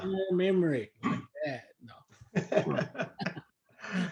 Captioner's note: laughter